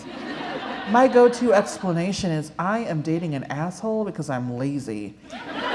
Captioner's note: laughter